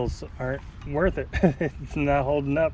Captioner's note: chuckles